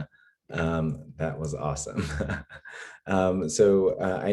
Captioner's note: laughs